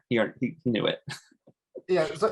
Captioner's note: chuckles